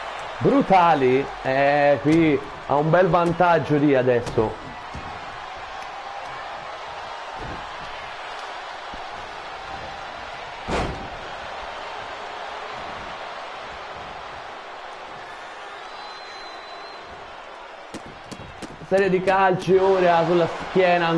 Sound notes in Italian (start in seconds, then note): 7.6 Applauso